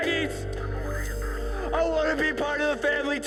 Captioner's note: police radio